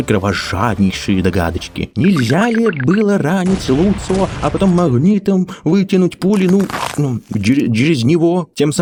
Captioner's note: sound of a gunshot